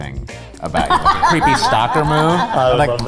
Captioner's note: laughing